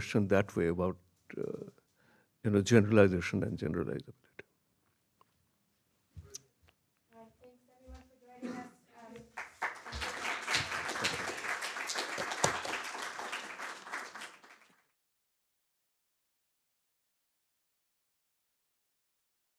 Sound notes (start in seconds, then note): 10.8 audience applauding